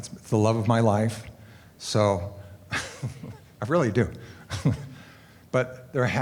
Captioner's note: laughter